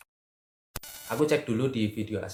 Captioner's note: interference sound